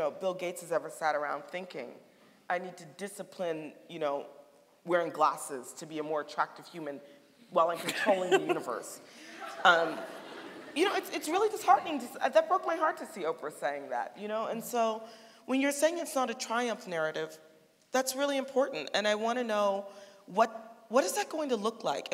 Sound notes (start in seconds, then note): 9.2 laughing; 9.3 audience laughing